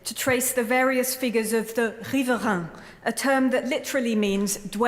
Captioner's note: french